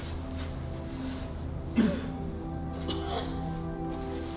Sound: sad music; rough coughing

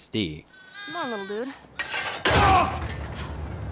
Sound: lamb whines; screams

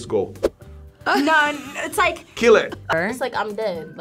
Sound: chuckles

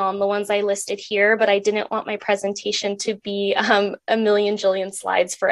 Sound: chuckles

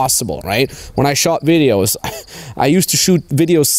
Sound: scoffs

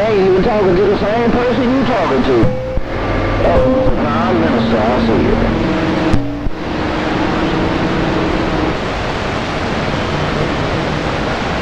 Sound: tones

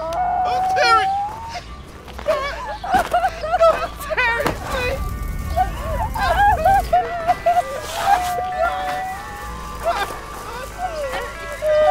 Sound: sobbing and wailing

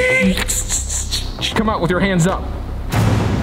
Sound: robotic Noise

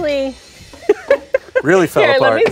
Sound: laughs

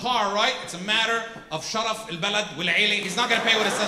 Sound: speaks in foreign language

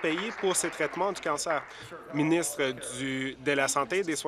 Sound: applause

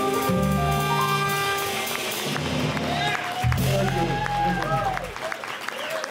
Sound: jazz music; audience applauding

